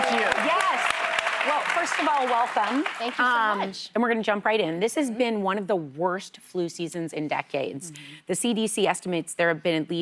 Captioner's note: applause